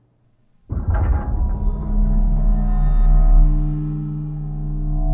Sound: metal vibrating

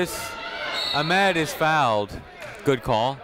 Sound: whistle tweeting

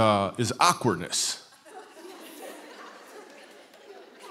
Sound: laughter

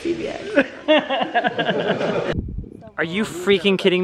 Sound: laughing

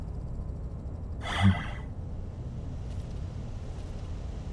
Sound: sighs

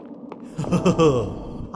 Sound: mysterious chuckle

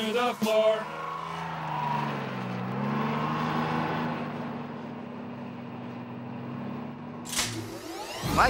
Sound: car moving

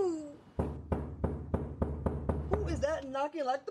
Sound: loud knocking

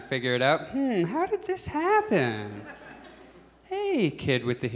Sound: thinking noise

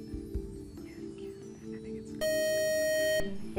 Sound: buzzer

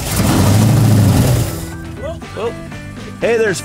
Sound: engine firing

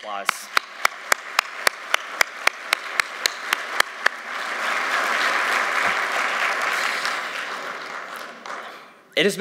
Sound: applause

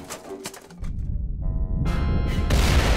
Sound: deep rumble and explosion

